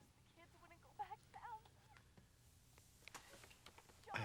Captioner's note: woman on telephone fussing